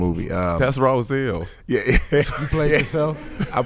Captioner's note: laughing